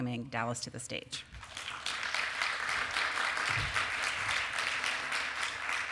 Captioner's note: applause